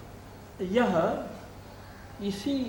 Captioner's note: Hindi